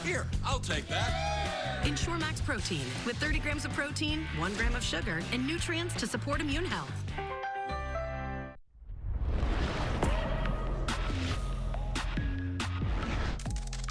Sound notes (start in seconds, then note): 0.8 excited yell